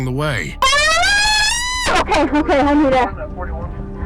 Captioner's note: suspect screaming